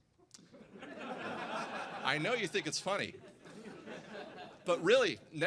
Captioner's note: laughter